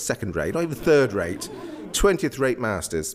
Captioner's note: audience laughs